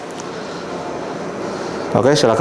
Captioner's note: exhale